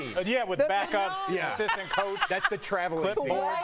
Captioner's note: laughter